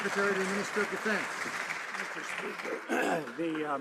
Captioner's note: some Applause